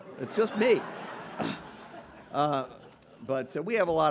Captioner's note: audience laughing